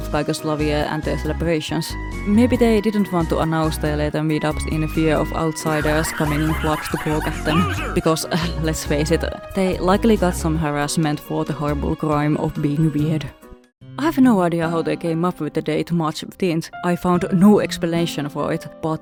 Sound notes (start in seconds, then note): 5.6 Muta laughing and Hank Hill calling them losers